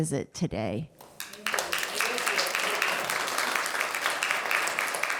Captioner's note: audience clapping